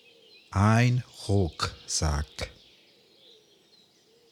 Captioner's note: german